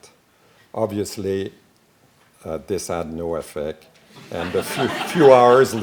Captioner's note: laughing